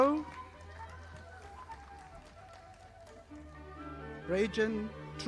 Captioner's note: audience applauding